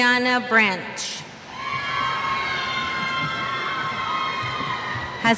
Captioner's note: cheers